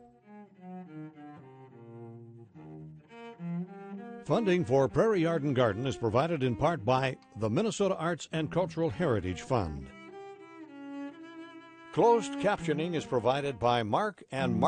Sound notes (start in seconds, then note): 0.1 gentle music; 4.3 voiceover